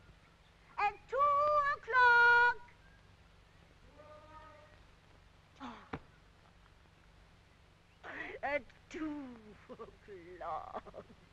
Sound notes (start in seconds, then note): 5.6 Rosalind sighs